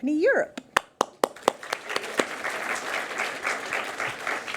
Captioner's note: audience applauds